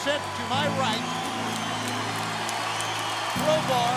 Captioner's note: crowd cheering